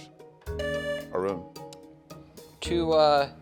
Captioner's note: tone sounds